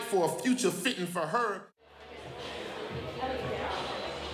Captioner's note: crowd chatters